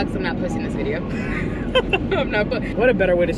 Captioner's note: laughs